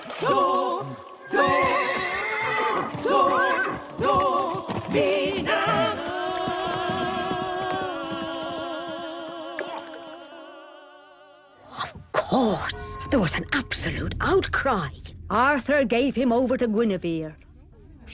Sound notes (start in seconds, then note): 1.5 neighing